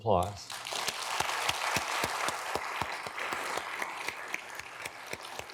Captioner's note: audience clapping